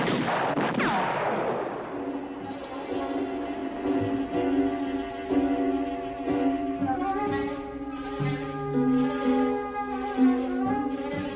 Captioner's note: gun firing